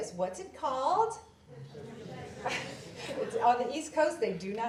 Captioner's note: audience murmurs